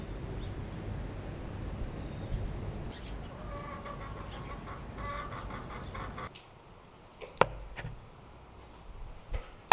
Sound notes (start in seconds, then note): 2.8 chicken sounds